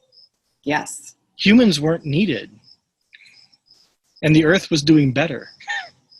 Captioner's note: laughs